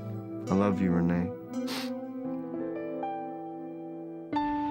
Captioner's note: sniffles